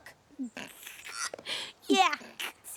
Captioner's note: chuckles